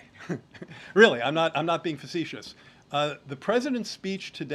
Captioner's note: laughs